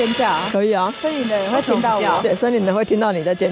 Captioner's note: screaming